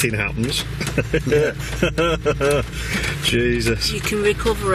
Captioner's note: chuckling